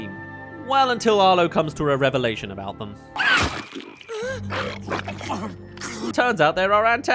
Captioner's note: chomp* *Gasp* *Choke